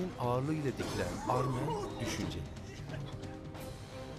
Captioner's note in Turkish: Öksürük sesi